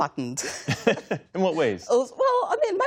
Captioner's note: laughter